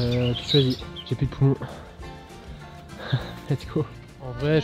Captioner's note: laughs